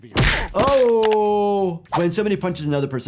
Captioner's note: Stan thudding